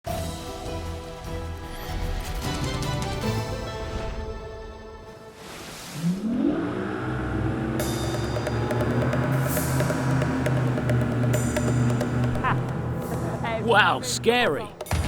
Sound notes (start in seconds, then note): 0.4 upbeat music; 6.5 boat Engine Revs; 8.5 dramatic Music